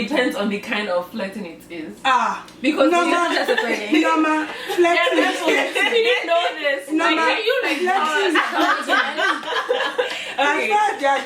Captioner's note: laughter